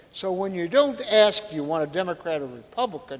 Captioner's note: none